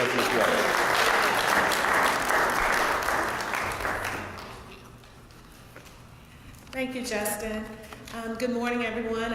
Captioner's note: applause